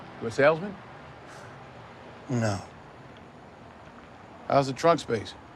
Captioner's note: scoffs